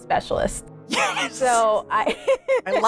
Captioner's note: laughs